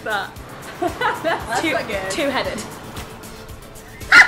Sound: all laugh

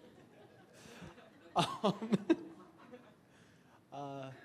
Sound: audience laughs; laughs

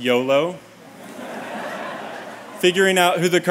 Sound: laughter

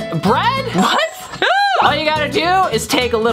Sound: laughs

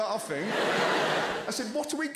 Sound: crowd laughing

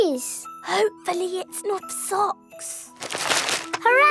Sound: whispering

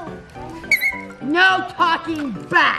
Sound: whistle blows

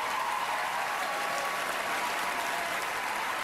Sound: cheering

